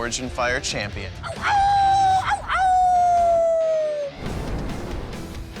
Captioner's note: howling